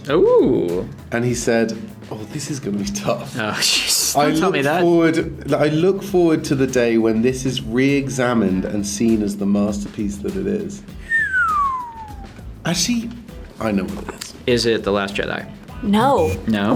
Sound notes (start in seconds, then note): 11.0 Rian whistles